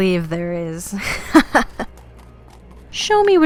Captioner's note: Vyxxen laughs